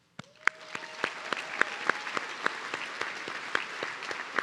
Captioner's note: audience cheering